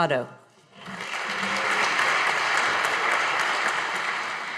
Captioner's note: audience applauding